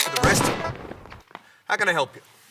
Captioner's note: gunshot